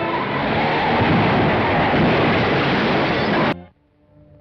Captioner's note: car banging